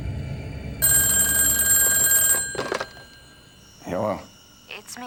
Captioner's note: phone ringing